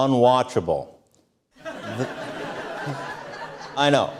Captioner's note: audience Laughter